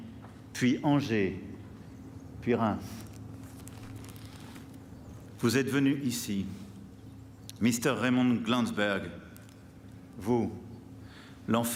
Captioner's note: speaking french